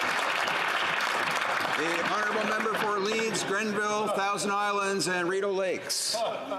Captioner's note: applause